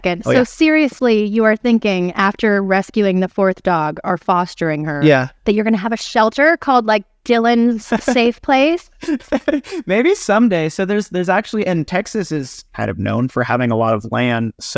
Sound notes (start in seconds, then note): 7.8 laughing